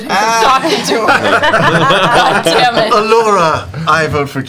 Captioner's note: laughter